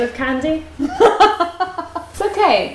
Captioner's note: laughs